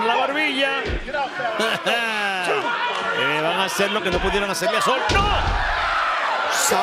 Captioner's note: laugh